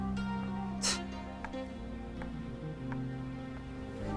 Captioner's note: slow music; Remi scoffs